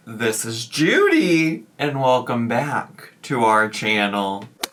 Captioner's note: none